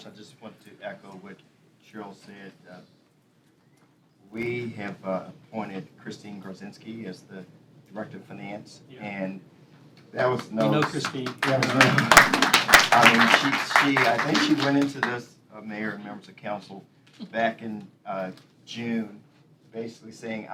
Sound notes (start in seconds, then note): 10.3 applause